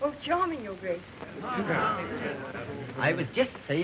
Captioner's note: all murmuring agreement